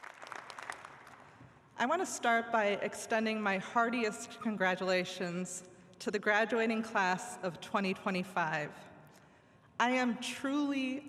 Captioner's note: applause